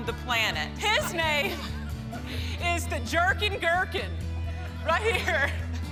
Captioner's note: laughs